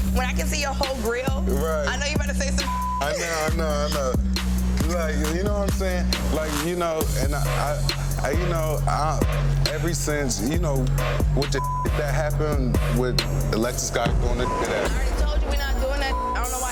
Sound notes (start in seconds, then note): 3.0 laughs; 6.8 thumping dance music; 16.2 tense hip-hop music